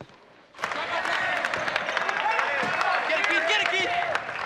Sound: crowd continues cheering

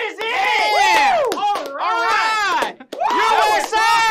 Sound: clapping

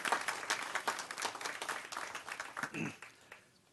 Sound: applause

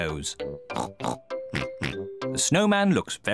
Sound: both snort

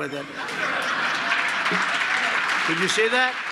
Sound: applause

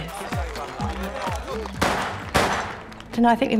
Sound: gunshots

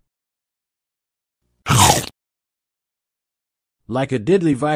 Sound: sound effect

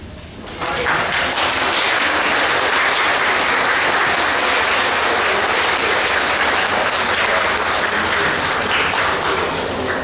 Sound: clapping

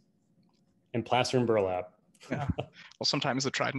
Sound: laughs

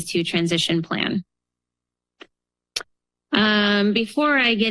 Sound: pause

